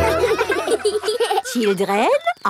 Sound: children laughing

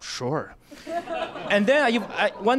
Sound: laughter

